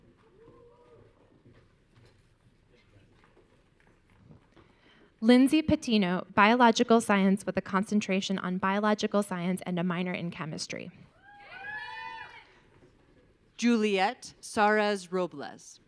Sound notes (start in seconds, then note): 11.2 audience cheering